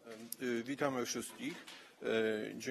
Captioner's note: speaking polish